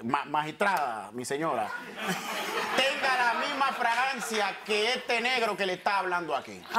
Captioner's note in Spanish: Risas